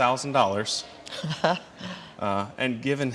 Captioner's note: chuckles